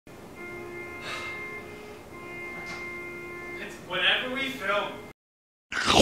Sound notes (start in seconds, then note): 1.0 sighing